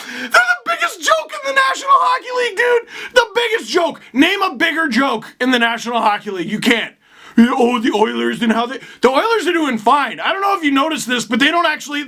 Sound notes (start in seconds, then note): 0.0 wheezing; 4.0 normal pitch